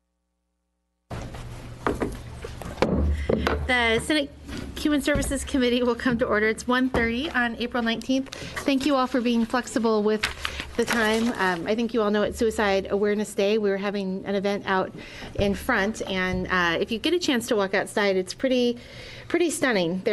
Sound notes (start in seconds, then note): 2.8 gavel bang